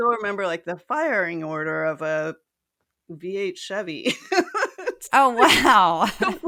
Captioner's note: laugh